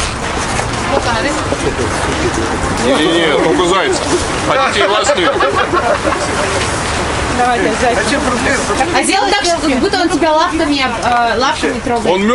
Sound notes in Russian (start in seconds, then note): 5.4 смех толпы в -40 градусов